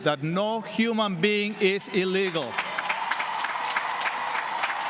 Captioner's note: cheers and applause